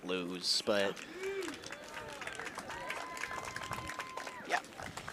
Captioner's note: cheers, applause